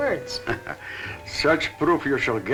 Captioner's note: chuckling